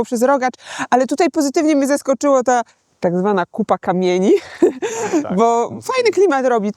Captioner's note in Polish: śmiech